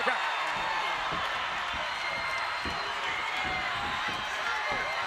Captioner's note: audience cheering